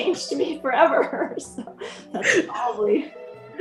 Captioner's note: laughs